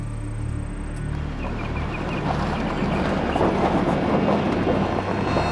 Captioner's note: truck rumbling